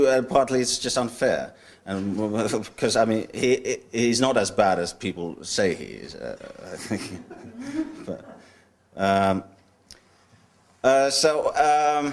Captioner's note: audience chuckles